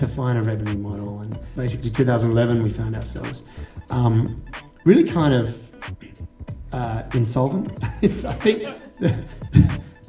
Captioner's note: laughter